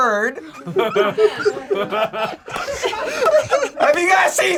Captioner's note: group laughs